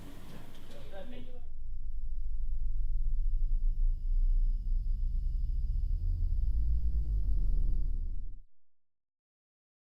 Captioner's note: eerie sound fades in